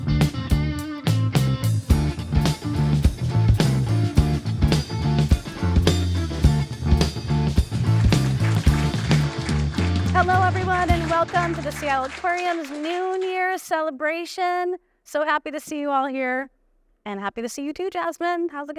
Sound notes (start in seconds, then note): 4.5 funky rock music continues; 7.8 audience applauding